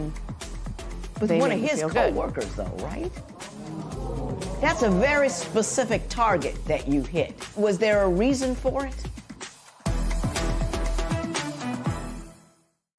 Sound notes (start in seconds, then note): 3.1 spectators murmur